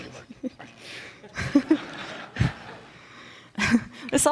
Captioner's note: audience laughs